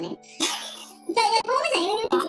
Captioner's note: laughs